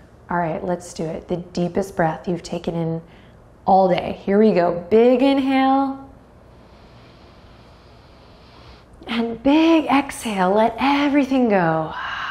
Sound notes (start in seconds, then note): 6.4 deeply inhales; 12.0 deeply exhales